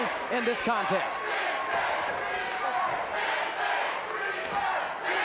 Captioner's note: audience chanting